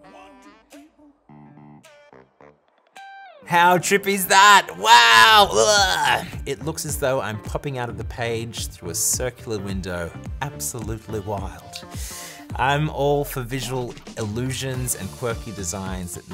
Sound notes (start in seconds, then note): 4.3 screams